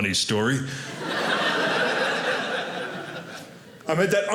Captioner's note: audience laughing